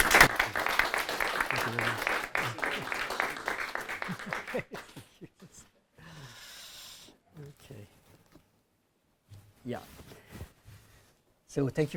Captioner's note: audience applauding